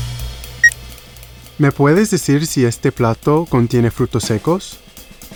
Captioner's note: in Spanish